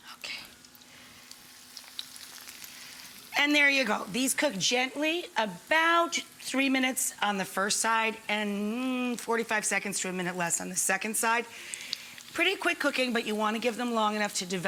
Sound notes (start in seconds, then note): 1.0 pan sizzling